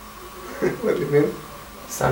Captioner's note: laugh